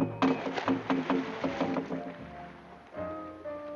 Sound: splashing

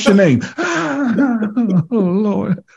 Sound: all laughing

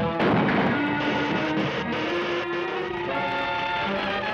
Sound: electrical buzz; flames crackling

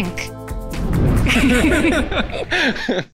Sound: group laughing

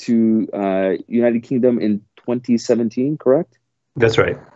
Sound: speaking foreign language

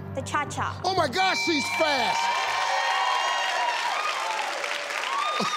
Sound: crowd cheering

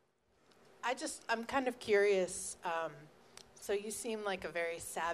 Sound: voiceover

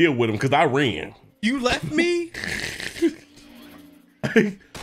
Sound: snorts

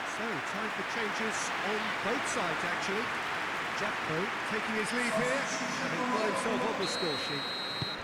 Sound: applause

